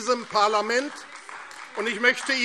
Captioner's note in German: Beifall AfD